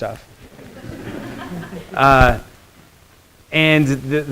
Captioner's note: students laughing